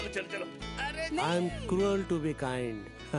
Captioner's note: laughs